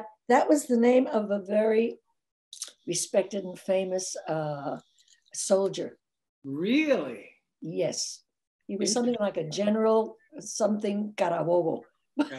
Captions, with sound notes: that was the name of a very respected and famous soldier. - Really? - Yes, he was something like a general, something (speaks in foreign language).